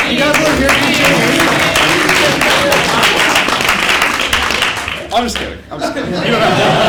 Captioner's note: applause; laugh